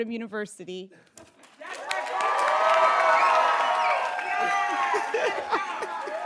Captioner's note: attendees cheering and applauding